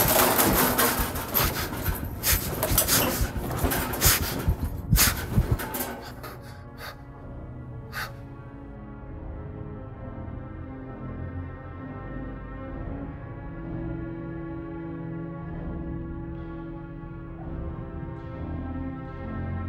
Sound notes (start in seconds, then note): 2.0 heart beating loudly